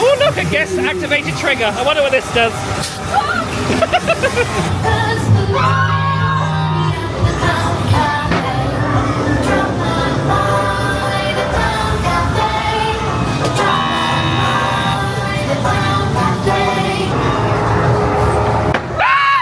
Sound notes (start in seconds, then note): 2.9 air hissing; 2.9 guest screams; 3.0 laughing; 17.5 spooky music